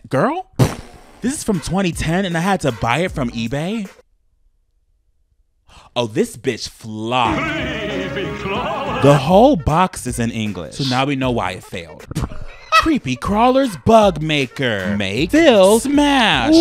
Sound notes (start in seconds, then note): 7.2 eerie music; 12.4 laughs